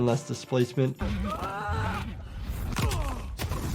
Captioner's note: fighter groans